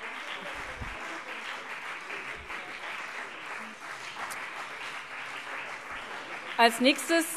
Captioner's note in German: Beifall BÜNDNIS 90/DIE GRÜNEN und CDU